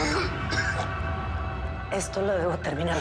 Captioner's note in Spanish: Tosidos